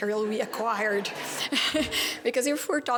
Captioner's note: laugher